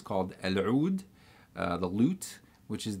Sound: speaks in foreign language

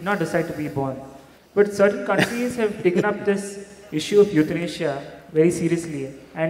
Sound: Sadhguru Laughs

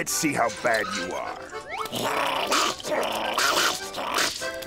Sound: growling

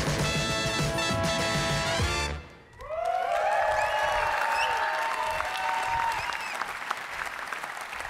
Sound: funky music; cheering

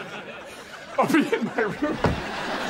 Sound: laughing

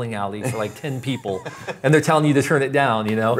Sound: laughs

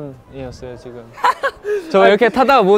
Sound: laughing

